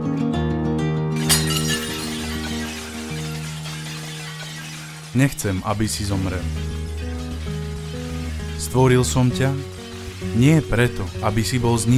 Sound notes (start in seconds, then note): 1.2 falling Plates crashing